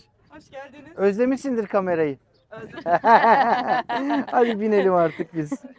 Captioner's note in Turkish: kahkaha